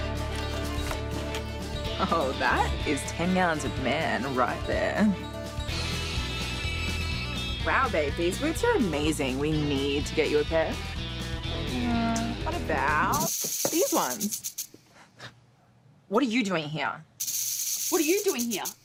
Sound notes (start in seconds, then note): 17.2 snake rattle